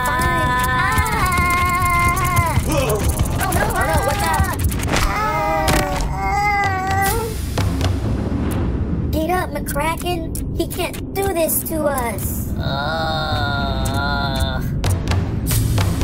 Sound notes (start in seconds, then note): 4.9 scorpions groan; 12.5 McKraken groans